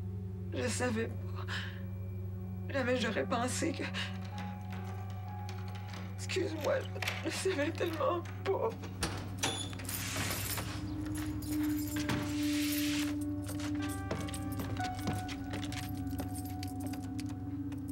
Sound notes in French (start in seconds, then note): 8.8 Pleurs; 9.7 La porte s'ouvre; 11.5 Bruits de pas